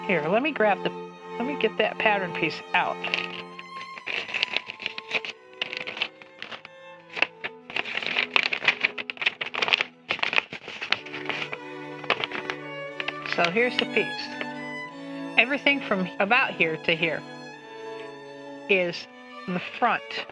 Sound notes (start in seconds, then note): 3.8 pattern paper rattling